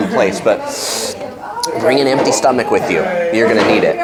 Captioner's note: inhales